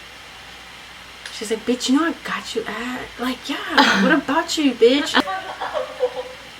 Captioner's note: laughs